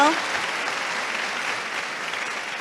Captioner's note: applause